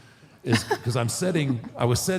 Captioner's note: Michelle laughs